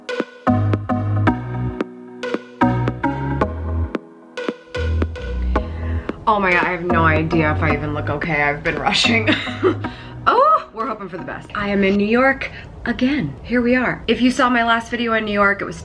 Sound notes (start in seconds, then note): 9.0 laughs